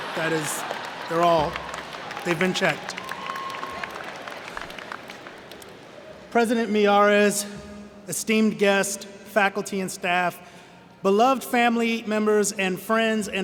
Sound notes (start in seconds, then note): 3.5 cheers and Applause